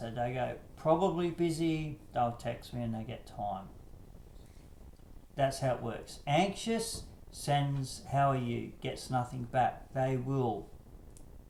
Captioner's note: Гул на фоне продолжается